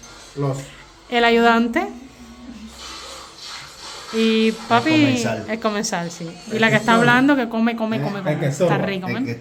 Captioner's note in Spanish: resoplido